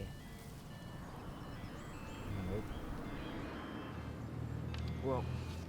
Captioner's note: mobile phone rings